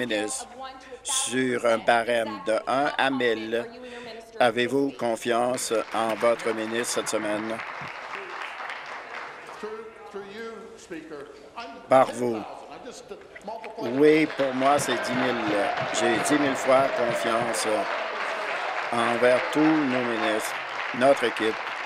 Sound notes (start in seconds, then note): 8.9 applause; 20.3 applause